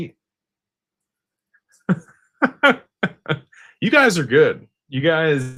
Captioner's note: laughter